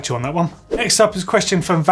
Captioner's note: swoosh